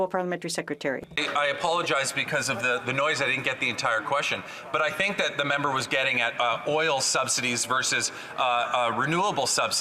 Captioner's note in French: voix de l'interprète